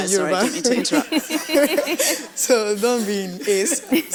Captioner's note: laughs